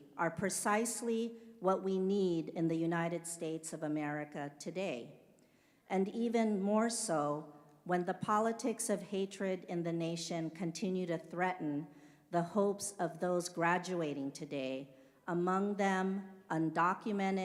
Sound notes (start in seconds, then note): none